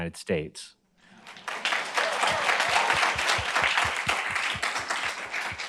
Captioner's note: group applauds